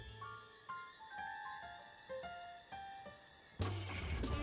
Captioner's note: engine starts